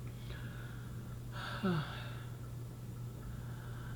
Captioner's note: sighing